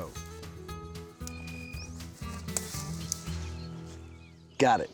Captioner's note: snapping, cutting sound